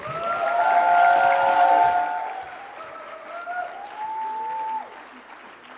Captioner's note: audience cheering and clapping